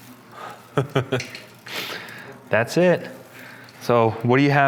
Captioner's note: laughs